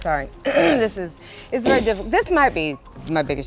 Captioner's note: clears throat